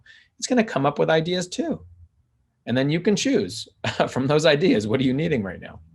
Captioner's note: chuckles